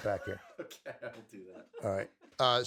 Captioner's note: laughs